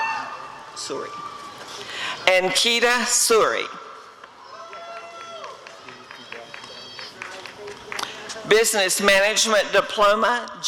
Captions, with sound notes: Ankita Suri [applause and cheering] Business Management Diploma—